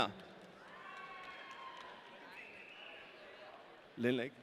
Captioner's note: audience cheering